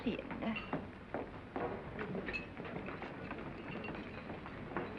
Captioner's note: crew chattering